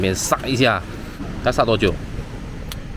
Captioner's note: boil